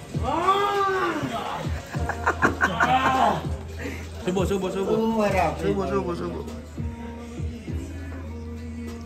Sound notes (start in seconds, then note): 1.2 laughing